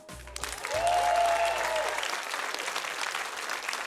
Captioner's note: applause, cheering